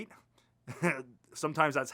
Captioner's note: laughter